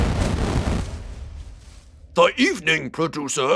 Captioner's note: explosion; sigh